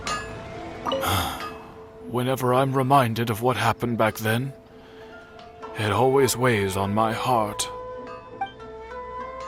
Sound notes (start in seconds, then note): 0.9 sigh